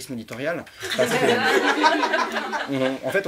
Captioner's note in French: rires